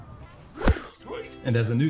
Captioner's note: ball thuds against bat